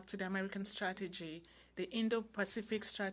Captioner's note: speaking French